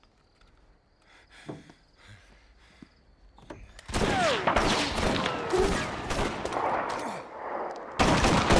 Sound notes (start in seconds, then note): 4.1 exchanging gun fire